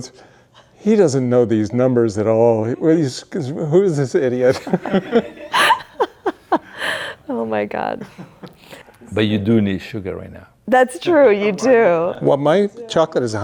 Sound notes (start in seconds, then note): 4.4 everybody laughing; 8.2 laughing